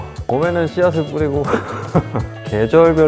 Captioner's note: haha